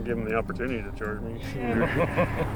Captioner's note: laughing